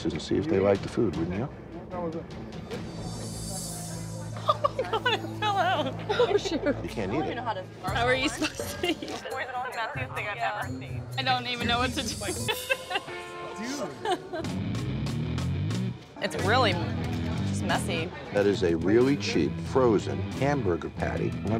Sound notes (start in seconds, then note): 4.3 laughing; 12.1 laughs